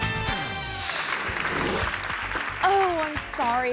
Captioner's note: upbeat instrumental music; crowd applauds; screen swooshes